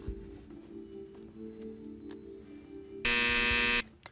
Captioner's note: time out buzzer